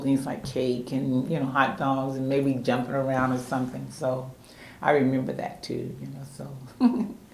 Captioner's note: laughs